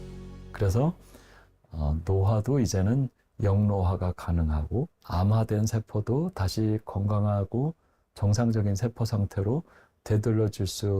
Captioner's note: voiceover